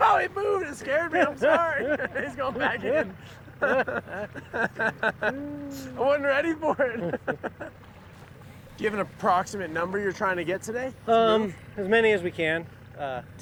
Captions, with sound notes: -Aaahhh! Whoa, it moved! It scared me. I'm sorry. He's going back in. [laughter] I wasn't ready for it. Do you have an approximate number you're trying to get today? -As many as we can.